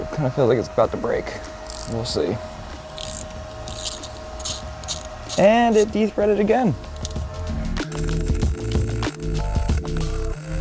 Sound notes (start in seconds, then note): 3.3 tool cranking; 8.0 chill music